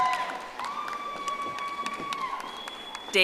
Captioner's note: audience applauding